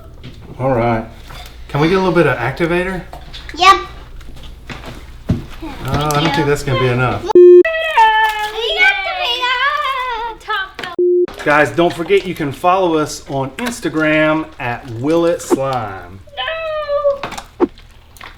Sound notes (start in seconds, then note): 7.3 beep; 8.1 water pouring; 11.0 beep